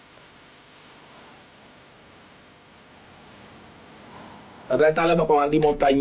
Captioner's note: beatbox